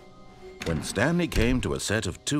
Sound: door closes

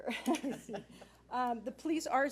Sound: laughing

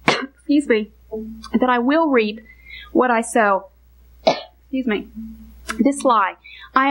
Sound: coughs; coughs

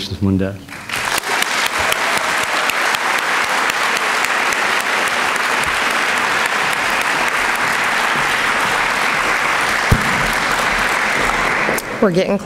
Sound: applause

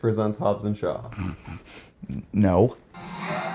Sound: snort

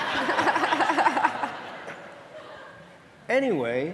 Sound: audience laughing

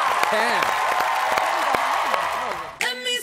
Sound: cheering

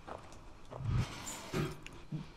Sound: cage Door Closes

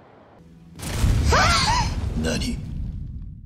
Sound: explosion

